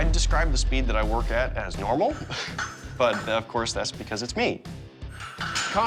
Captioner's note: chuckles